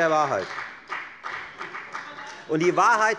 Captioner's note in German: Beifall bei der FDP